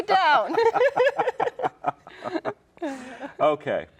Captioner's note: all laugh